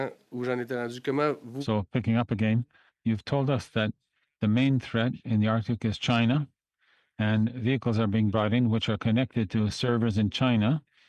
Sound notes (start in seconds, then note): 4.8 speaking French